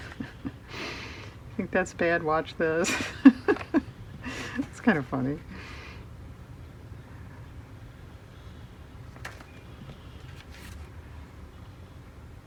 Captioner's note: laughs